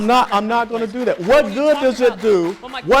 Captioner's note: audience applause